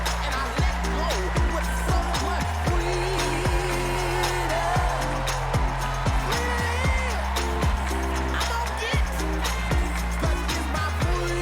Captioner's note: applause